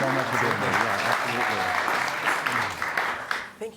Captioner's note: audience clapping